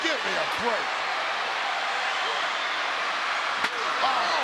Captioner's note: crowd yelling